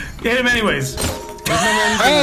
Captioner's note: sound of glass shattering; laughing